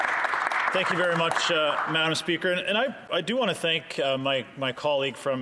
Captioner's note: some Applause